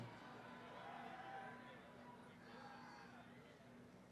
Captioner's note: cheering